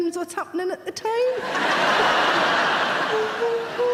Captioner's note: audience laughing